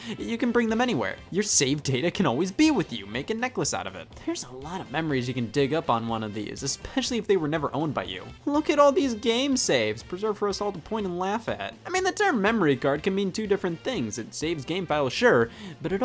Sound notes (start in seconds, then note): none